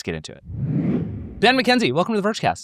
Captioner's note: graphics whooshing